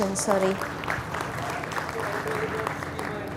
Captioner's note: audience applauding